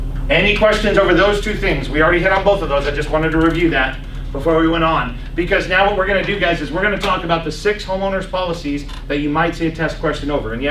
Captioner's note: laughs